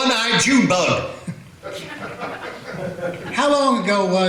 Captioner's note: laughter